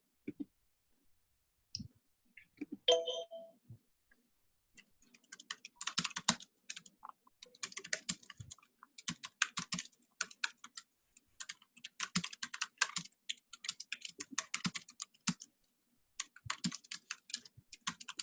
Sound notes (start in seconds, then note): 2.9 computers beeps; 6.3 keyboard clatters